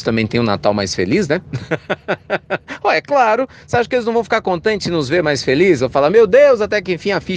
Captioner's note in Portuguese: risos